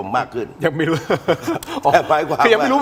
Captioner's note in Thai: เสียงหัวเราะ